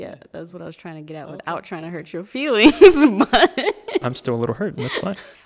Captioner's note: laughing